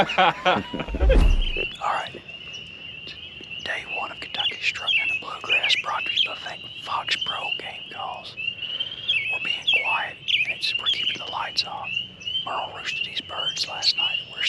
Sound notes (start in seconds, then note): 0.0 people laughing